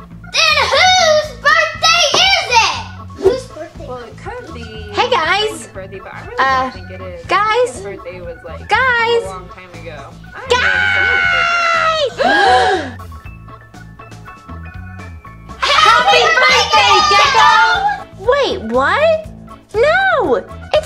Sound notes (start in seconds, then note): 12.0 Nelly Nancy, Assistant and Vampirina gasp